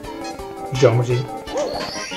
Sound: collisions

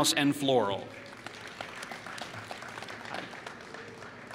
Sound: applause

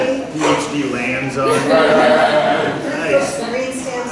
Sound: laughter

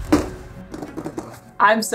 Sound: clunk noise of box on table; noise of rapidly drumming fingers on box

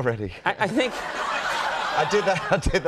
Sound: crowd laughs

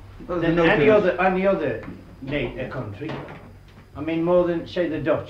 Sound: none

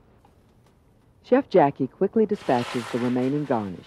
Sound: voiceover

